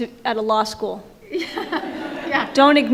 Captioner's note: audience laughs